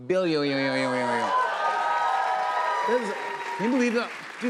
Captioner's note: cheers and applause